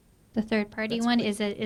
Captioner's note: voiceover